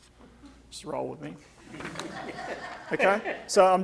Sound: audience laughing

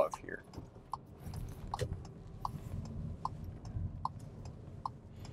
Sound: car signal clicking

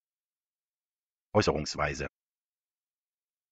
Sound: fast Pronunciation

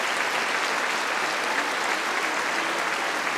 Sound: cheering & Applause

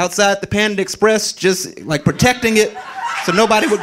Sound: audience laughing

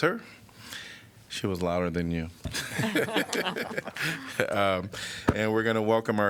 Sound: laughter

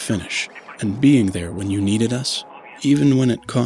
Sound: satellite beeping in background

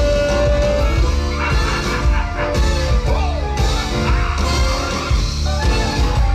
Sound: laughs

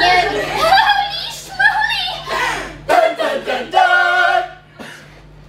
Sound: epic dramatic gasp

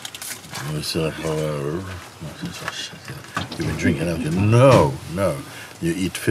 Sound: imitiert betrunkenes Lallen

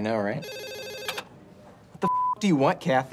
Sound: phone rings

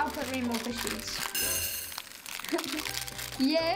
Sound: beads clinking

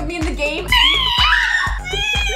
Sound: both yell

